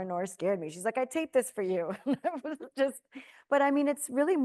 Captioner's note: laughing